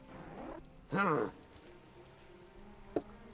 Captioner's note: man grunts